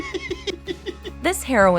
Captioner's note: laughs